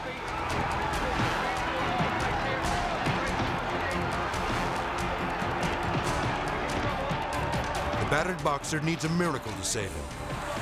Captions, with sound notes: (crowd cheering) (boxer punching) The battered boxer needs a miracle to save him.